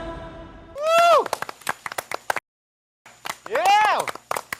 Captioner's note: stood up and applauded